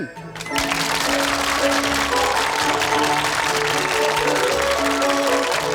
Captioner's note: upbeat music; audience applauding